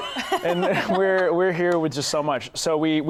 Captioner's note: laughter